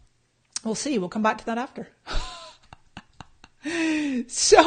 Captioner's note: laughs